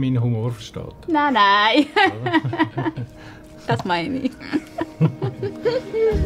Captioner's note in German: lacht